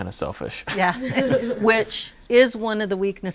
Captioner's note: laughing